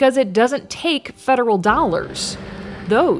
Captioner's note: vehicle revving